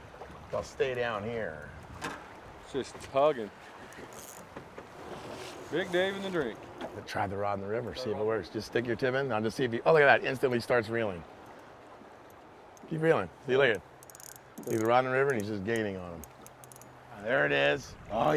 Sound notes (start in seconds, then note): 3.8 reel cranking; 13.7 reel cranking